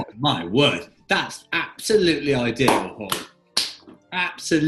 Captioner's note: claps